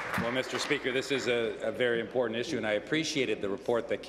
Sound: applause

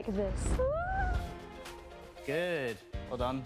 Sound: whimpering

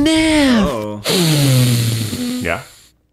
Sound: inhales

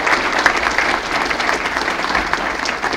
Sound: applause

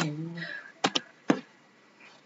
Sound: silence

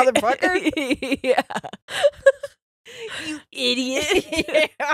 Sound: both laughing

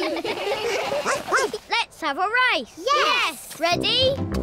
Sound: all laugh; barks

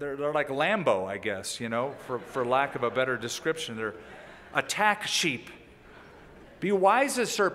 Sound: laughter

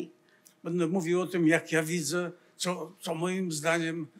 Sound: foreign language

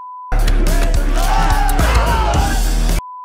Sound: beep; bones cracking; beep; man screams

